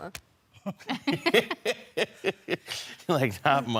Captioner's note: all laughing